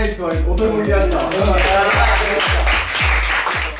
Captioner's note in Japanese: 一同拍手